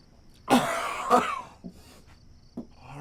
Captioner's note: chokes